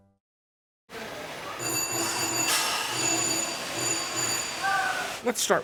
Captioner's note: bells dinging